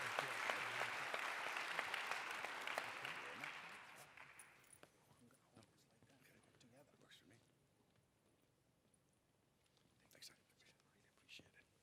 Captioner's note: applause